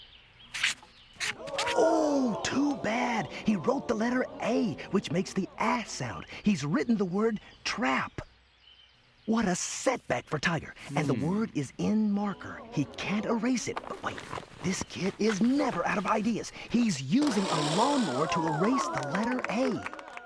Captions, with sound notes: ( crowd gasps ) OH, TOO BAD. HE WROTE THE LETTER "A," WHICH MAKES THE "AAH" SOUND. HE'S WRITTEN THE WORD "TRAP." WHAT A SETBACK FOR TIGER. AND THE WORD IS IN MARKER-- HE CAN'T ERASE IT. WAIT-- THIS KID IS NEVER OUT OF IDEAS. HE'S USING A LAWNMOWER TO ERASE THE LETTER "A."